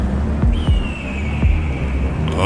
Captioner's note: eagle cries